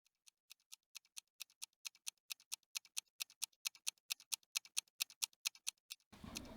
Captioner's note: ticking watch